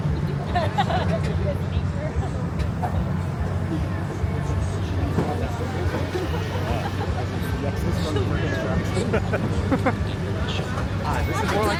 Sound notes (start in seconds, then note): 0.2 riders laughing; 2.2 riders chatting; 7.9 riders laughing